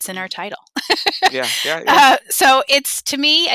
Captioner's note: laughs